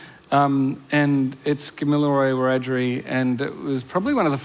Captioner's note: foreign language